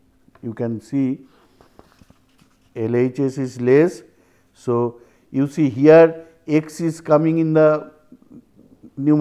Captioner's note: steps